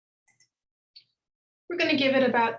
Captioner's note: mouse clicking